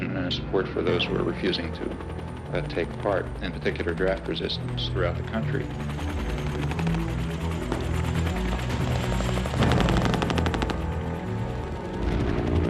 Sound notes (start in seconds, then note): 7.2 helicopter rotors whirring; 7.2 somber music; 9.6 gunshots booming; 12.5 airplane roaring